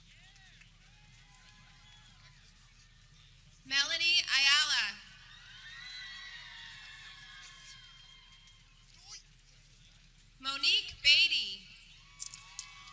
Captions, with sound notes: Melody Ayallah (people cheering) Monique Badey